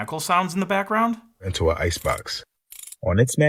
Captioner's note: clicking sound